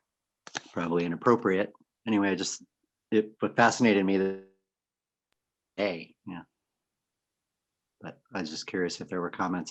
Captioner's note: audio cuts out